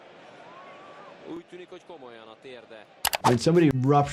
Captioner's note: commentator speaking in foreign language; keyboard clicking